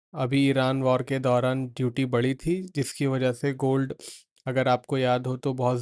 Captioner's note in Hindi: नाक से की जाने वाली आवाज़